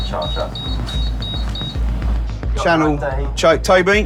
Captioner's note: devices continue beeping